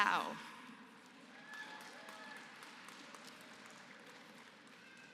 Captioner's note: applause